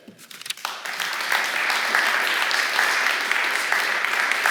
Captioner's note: applause